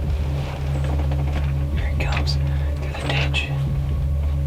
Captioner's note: whispering